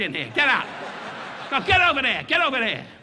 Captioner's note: audience laughing